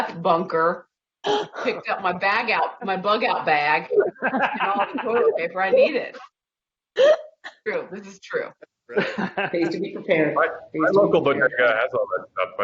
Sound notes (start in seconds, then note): 6.1 laughing